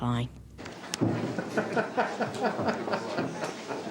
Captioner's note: laughing